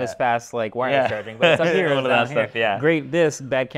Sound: laughs

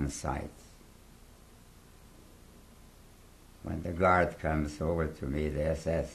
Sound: pauses for 3 seconds

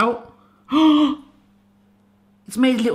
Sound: gasps

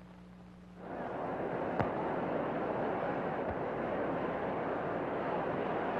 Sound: crowd chattering indistinctly

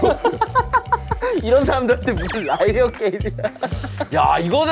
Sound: kekeke

